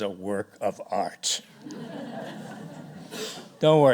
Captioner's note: laughter